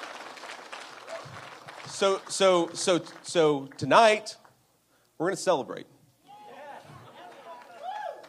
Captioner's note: appuse